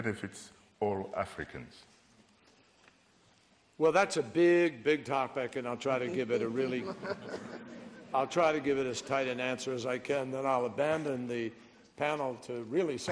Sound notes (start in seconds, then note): 6.1 laughter